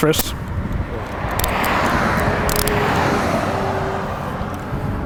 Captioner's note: cuffs clicking